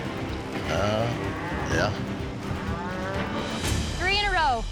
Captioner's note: cows mooing